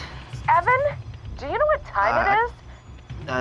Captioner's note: Mrs. Harris on Phone